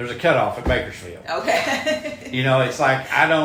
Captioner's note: laughs